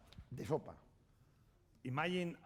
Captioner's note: speaking spanish